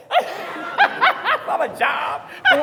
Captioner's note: speakers laughing